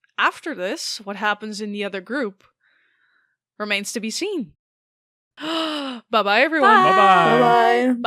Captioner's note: gasps